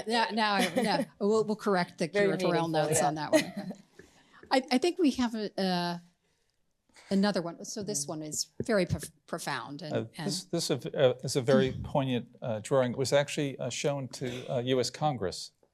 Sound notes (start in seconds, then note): 2.3 laughs